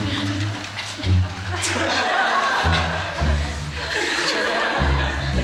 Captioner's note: laughing